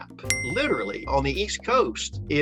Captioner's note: bell dings